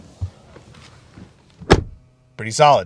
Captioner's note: door closing